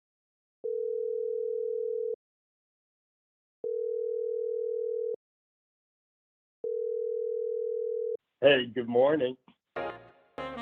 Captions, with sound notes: [phone ringing] Hey, good morning.